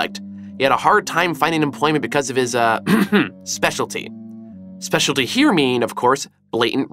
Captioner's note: ahem